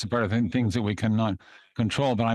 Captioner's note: speaking in French